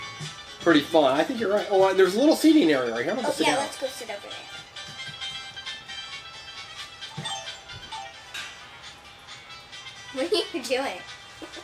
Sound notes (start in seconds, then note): 7.2 bells chiming